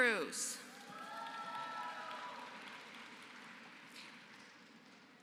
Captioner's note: applause